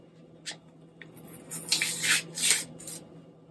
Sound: tearing packet open

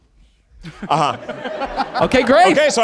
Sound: all laughing

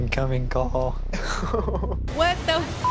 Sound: man with bun laughs

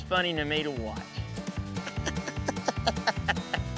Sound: laughing

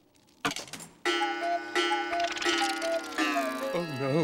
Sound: clock chiming

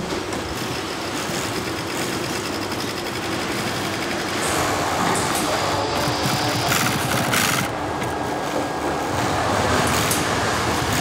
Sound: whirring machines

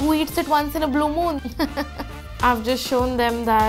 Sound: laughs

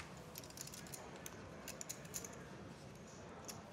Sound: chips clicking

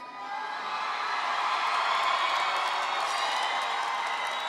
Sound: audience cheering

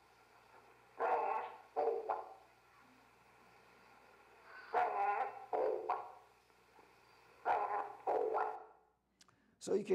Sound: Raven Talking

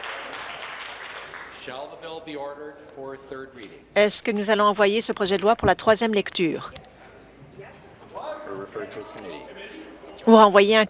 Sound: applause

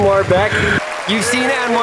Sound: audience clapping; laughing

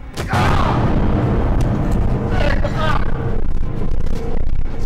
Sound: screams; shouts

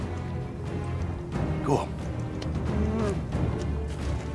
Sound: groans

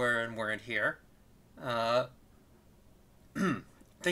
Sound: clears throat

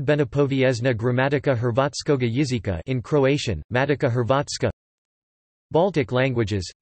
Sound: in Croatian

